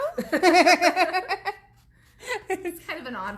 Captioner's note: laughs